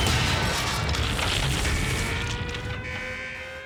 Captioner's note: alarm wailing